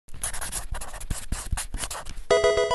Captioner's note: pen scratching; Pokemon game sound